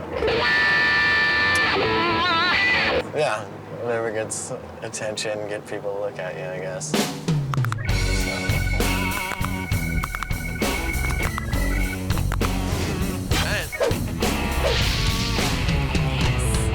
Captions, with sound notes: (electric guitar riff) - Yeah, whatever gets attention, gets people to look at you, I guess. (smooth rock music) (continuous knuckle cracking) - All right. - Thanks.